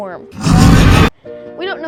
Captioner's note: demon roar